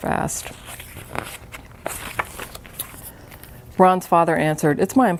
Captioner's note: paper rustling